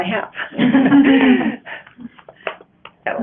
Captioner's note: laughing